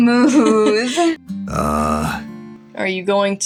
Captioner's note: vocalizes